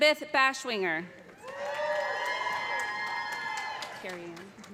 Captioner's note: cheers and applause